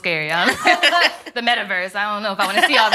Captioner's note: ladies laughing